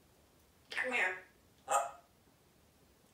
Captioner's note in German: none